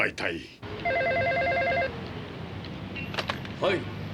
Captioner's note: phone ringing